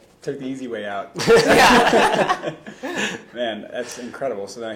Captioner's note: laughing